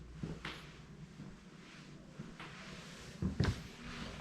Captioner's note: heavy footsteps